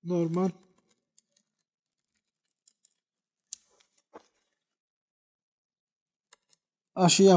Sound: sounds while cutting with a knife and bird sounds

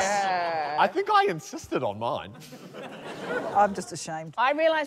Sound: laughter

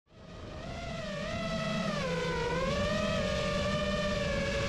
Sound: drone whirring

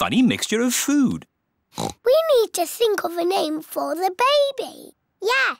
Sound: oinks

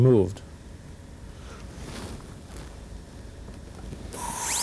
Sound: drilling sound

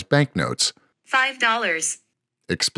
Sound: computerized voice

